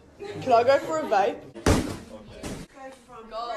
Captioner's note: crash